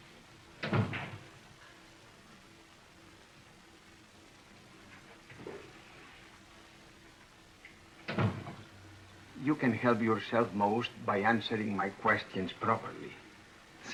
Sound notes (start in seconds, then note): none